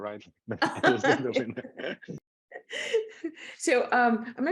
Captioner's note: all laughing